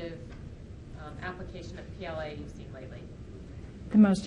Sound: talks faintly

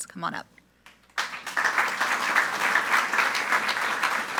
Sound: group applauding

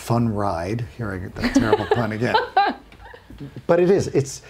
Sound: laughing

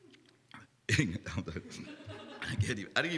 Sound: laughter

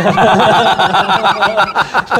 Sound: laughing

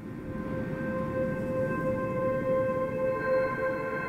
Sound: ethereal sounds play

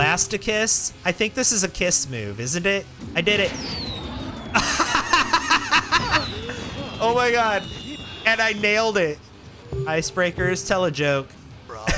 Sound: laughter

